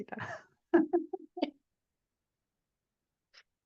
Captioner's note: chuckling